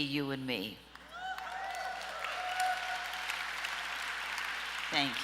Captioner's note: audience applause